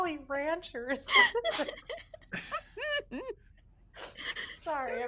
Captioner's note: people laughing